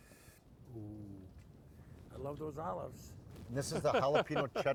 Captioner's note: laughs